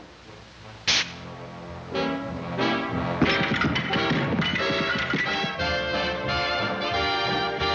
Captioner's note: tense music; cutlery clattering; energetic music